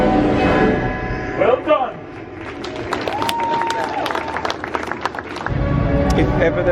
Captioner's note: audience applauds